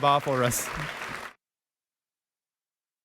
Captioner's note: applause